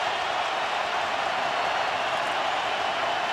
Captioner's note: crowd cheering